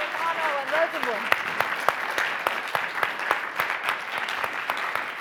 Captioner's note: audience applauding